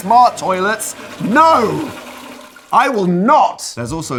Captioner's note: toilet flushing